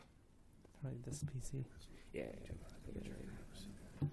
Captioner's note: whispering